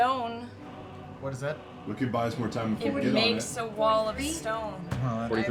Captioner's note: none